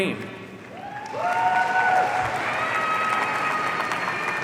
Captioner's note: audience cheering